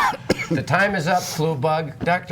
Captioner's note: coughing